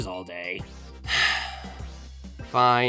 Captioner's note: sigh